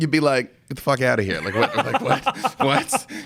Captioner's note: laughing